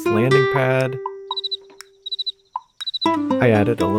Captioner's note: cricket sound